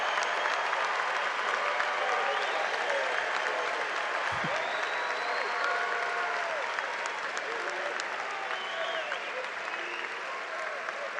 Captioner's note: cheers and applause